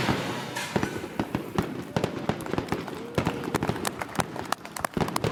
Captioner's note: confetti, fireworks, applause